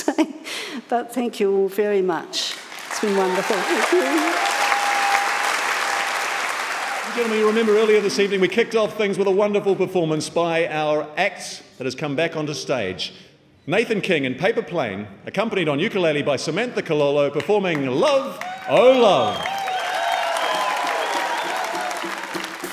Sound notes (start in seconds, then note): 2.5 audience clapping and cheering; 19.6 audience clapping and cheering